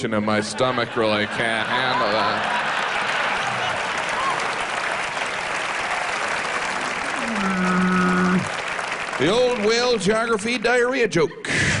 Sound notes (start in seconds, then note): 2.6 cheering; 7.0 whale noises